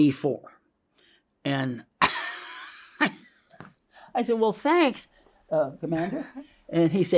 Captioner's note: laughs